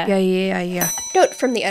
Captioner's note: bell dings